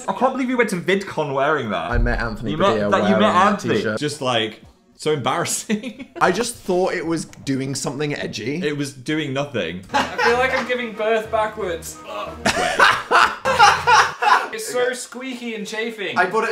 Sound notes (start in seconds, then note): 5.7 laughs; 9.9 laughing; 12.2 groans; 12.4 laughing; 12.4 laughs